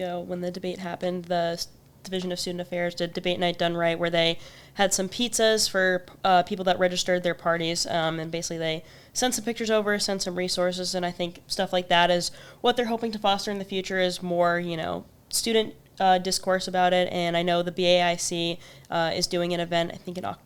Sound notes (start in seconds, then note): none